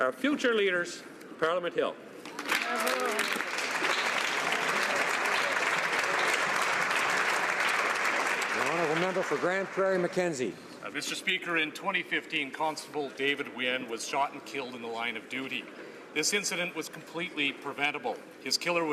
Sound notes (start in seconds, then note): 8.7 applause